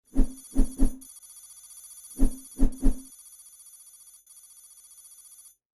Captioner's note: light beeping and whooshing sounds